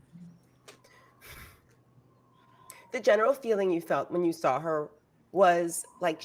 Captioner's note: sighs